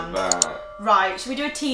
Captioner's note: glasses clinking; mouse clicking